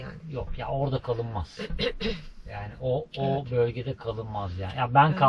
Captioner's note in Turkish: boğazını temizler